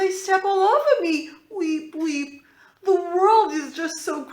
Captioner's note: weep weep